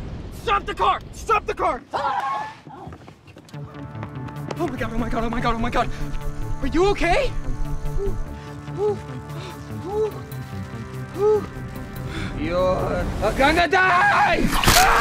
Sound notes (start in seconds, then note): 7.9 "hoos" of pain